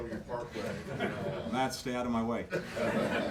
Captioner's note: laughter